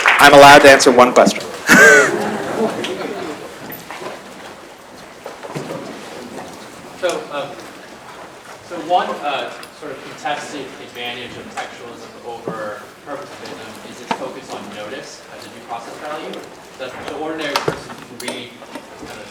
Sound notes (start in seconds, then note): 1.6 laughter